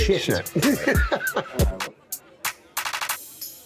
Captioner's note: laughs